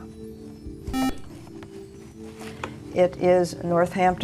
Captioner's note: beeping